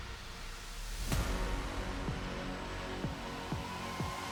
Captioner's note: applause